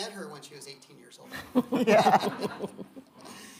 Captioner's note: audience laughing